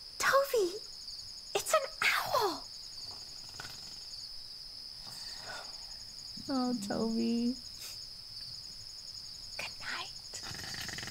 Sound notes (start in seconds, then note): 3.3 Tobee snoring